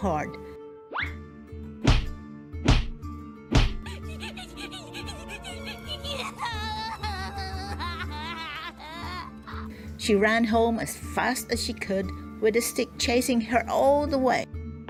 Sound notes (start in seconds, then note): 1.1 whacks and cries